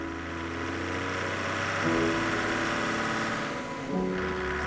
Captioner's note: car engine roars